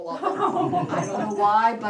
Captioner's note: laughter